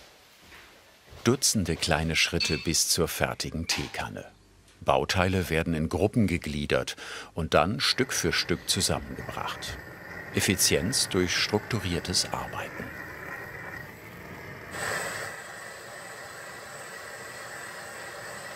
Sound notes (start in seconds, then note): 13.1 humming; 14.6 hissing